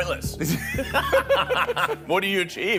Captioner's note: both laughing